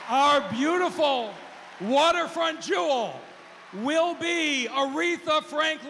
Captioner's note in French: cheers and applause